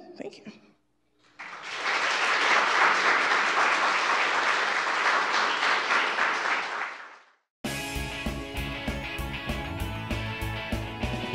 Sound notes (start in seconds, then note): 1.2 applause; 7.6 energetic music